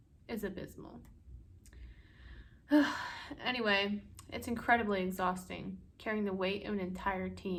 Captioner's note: long Sigh